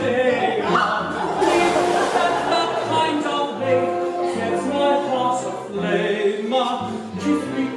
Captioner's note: loud splash